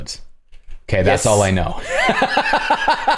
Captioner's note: laughter